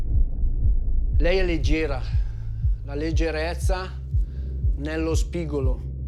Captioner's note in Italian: parla in italiano